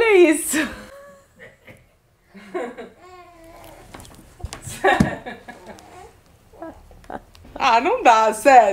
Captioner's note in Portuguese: risos